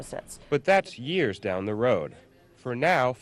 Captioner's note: voiceover